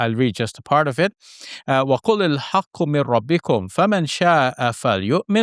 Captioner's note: speaks Arabic